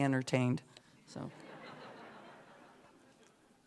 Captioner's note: laughter